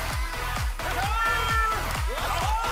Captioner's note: laughter